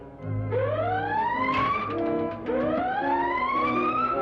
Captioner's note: siren Blaring